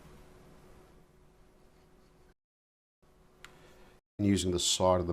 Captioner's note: silence